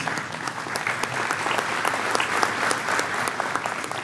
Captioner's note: clapping